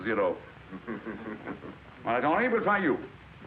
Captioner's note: class laughs